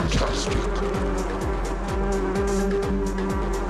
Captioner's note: buzzing; electronic music